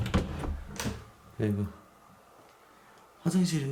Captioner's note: the sound of opening the door